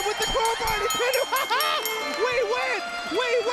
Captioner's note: bell ringing